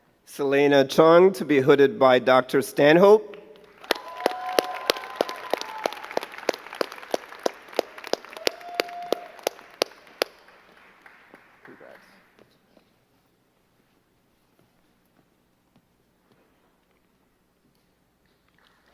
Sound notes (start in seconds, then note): 3.6 crowd cheering and clapping